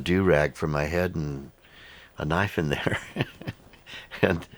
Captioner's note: laughs